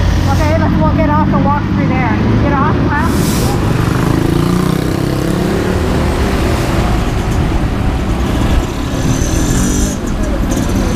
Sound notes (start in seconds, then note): 3.7 traffic driving